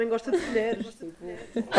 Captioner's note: laughs